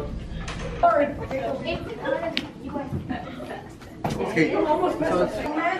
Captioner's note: students conversing